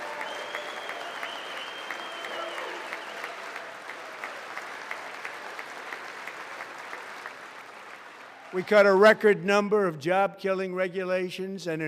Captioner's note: applause